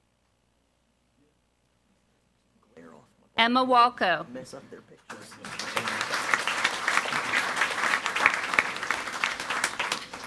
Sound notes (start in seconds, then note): 5.1 audience applauding